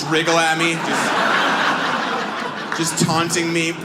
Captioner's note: audience laughs